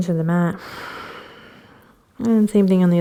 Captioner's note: exhaling